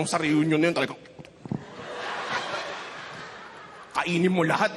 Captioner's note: laughter